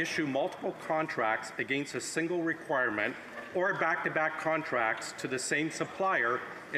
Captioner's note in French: voix de l'interprète